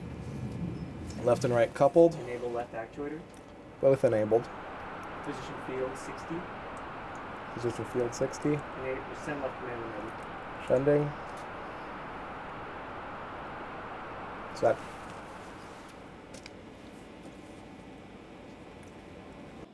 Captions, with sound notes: left and right coupled enable left actuator both enabled [mission chatter]